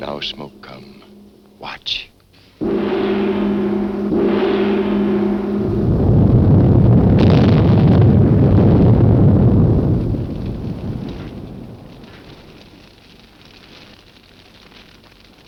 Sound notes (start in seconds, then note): 2.6 gong crashing; 6.2 earth rumbling; 10.9 flames crackling